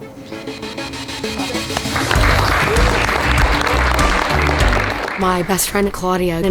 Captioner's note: audience applauding